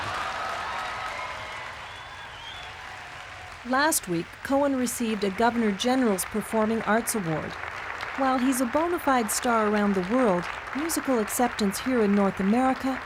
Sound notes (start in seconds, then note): 3.1 audience laughs and cheers